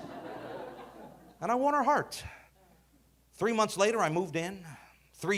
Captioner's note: audience laughing